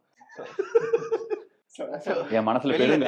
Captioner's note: laughter, but not track